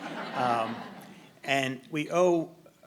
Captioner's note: audience laughing